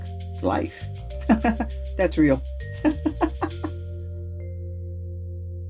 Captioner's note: laugh